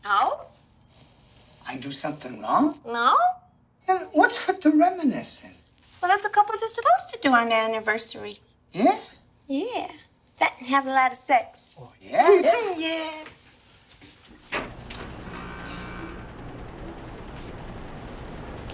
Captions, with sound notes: No. I do somethin' wrong? No. Then what's with the reminiscin'? Well, that's what couples are supposed to do on their anniversary. - Yeah? - Yeah. That, and have a lot of sex. Oh, yeah? Yeah. [the a/c noisily starts up again]